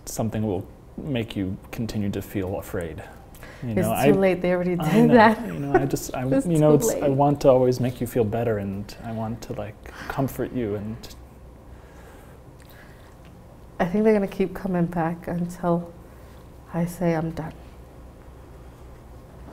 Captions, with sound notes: something that will make you continue to feel afraid. You know, I-- - It's too late. They already do that. (laughs) - I know. I know. (stammers) - It's too late. - I want to always make you feel better and I want it to comfort you and... - I think they're gonna keep coming back until I say, "I'm done."